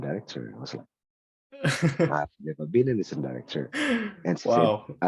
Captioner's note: laughs